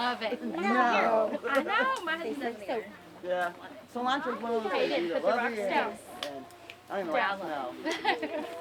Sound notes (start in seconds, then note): 1.2 chattering